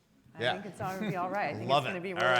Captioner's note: chuckles